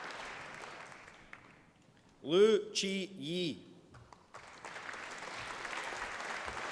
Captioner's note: applause